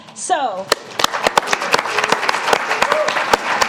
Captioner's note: applause